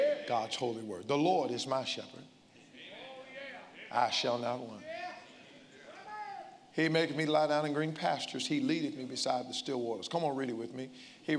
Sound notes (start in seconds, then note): 2.5 congregants call out